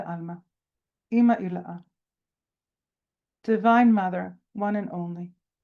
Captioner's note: speaking in Hebrew